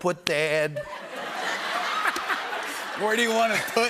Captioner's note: laughter